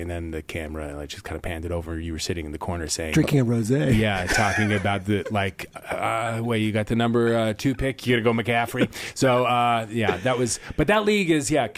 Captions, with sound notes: THE CAMERON TIDD CAN APPEND IT OVER TO SITTING IN THE CORNER. [LAUGHS] WE GOT THE NUMBER TWO PICK HERE, YEAH, BUT THAT LEAGUE I THINK IT'S CHRIS EVANS, ANTHONY